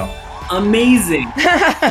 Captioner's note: chime rings; crowd cheers